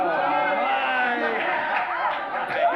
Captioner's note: everyone cheering